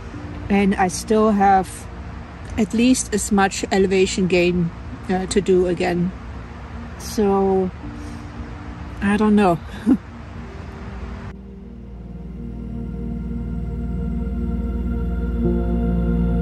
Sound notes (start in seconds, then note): 9.7 laughs; 11.2 quiet music